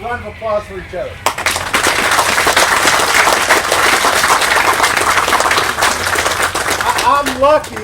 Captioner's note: applause